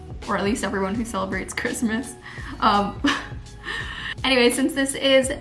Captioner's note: chuckles